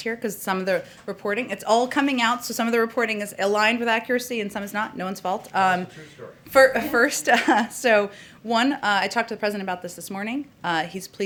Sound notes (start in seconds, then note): 6.5 laughs